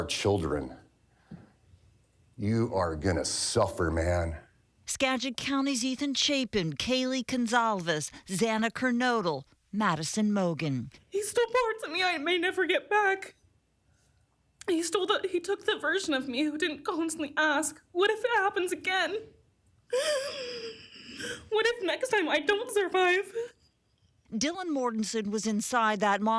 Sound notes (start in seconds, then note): 16.8 laughter